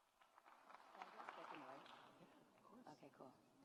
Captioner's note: audience applauds